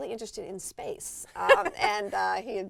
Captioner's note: laugh